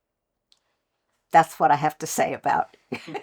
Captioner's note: laughter